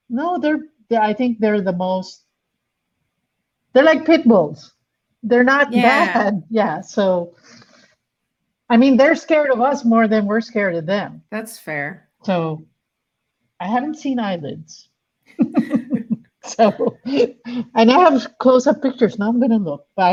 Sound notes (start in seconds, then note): 15.4 chuckles